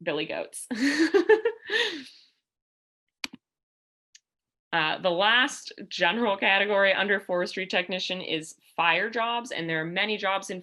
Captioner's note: laughter